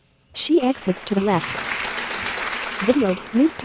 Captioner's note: applause